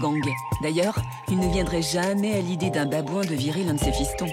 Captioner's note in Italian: versi di animali